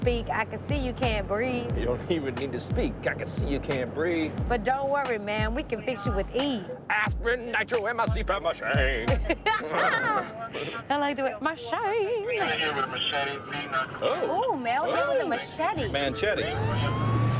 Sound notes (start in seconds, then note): 6.8 in a funny voice; 8.8 laughter; 10.9 in a funny voice